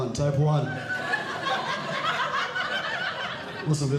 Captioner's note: audience Laughing